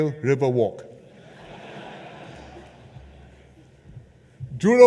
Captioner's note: laughter